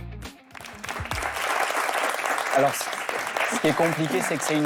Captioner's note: applause